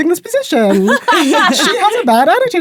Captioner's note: laughing